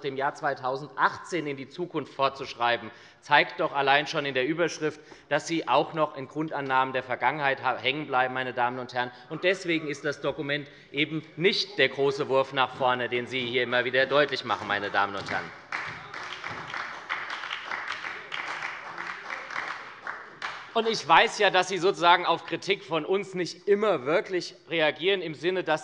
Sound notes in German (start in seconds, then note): 15.8 Beifall bei der SPD